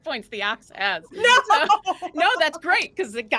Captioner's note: laughing